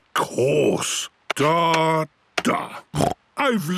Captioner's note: snorts